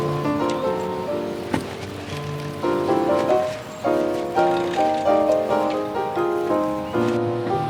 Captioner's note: soft Music Playing; cart Moving; soft Music Playing